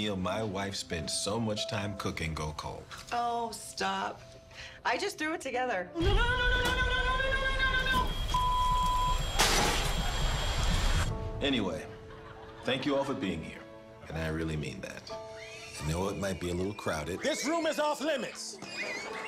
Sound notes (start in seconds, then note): 7.7 smoke alarm beeping; 8.0 beep; 9.3 tray crashes; 11.7 audience laughter; 18.3 children screaming